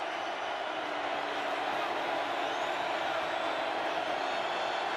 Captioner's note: cheering